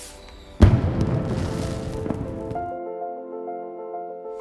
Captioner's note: fireworks explode